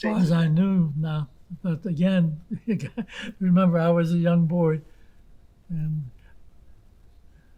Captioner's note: laughing